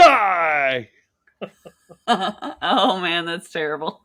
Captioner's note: laughing